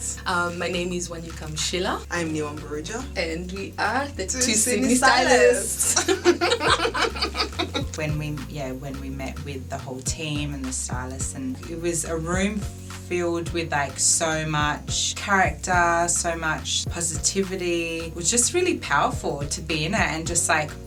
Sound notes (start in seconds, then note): 5.8 laughter